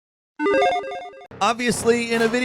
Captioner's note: electronic dinging